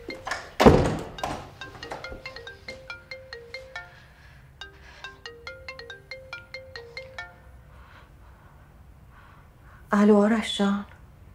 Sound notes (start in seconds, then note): 1.2 still ringing!!